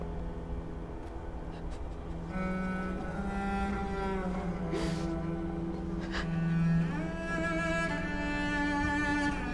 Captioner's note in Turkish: Ağlama ve Derin Nefes Sesleri